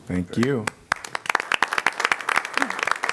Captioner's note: applause